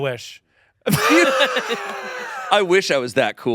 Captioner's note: everyone laughing